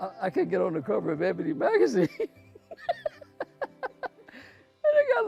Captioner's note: laughing